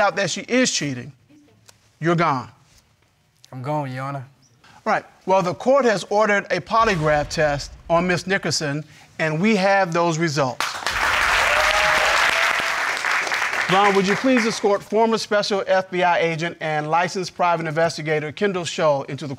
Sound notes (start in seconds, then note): 10.6 audience cheering, applauding